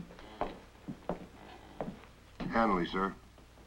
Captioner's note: footsteps approach